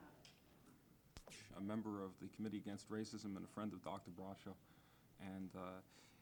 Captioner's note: man talking